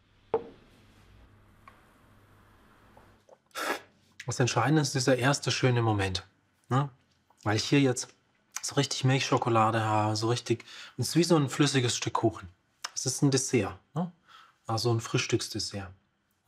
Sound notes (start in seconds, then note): 2.9 sipping